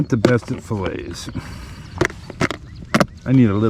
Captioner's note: tackle box closing